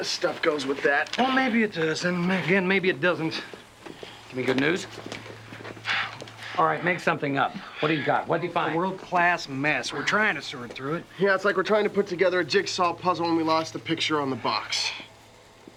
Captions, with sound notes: Maybe this stuff goes with that. - Well, maybe it does and maybe it doesn't. - Give me good news? (Evan sighing) All right, make something up. What do you got? What did you find? - A world-class mess. We're trying to sort through it. - Yeah, it's like we're trying to put together a jigsaw puzzle, and we lost the picture on the box.